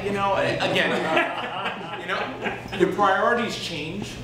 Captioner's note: laughter